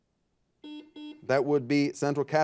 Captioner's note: buzzer beeping